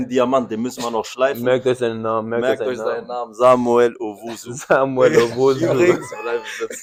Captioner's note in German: gelächter